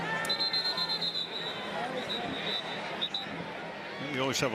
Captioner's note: whistle